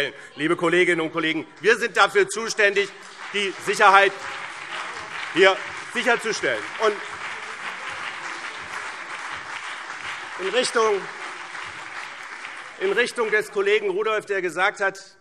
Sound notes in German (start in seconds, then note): 7.1 Beifall BÜNDNIS 90/DIE GRÜNEN und CDU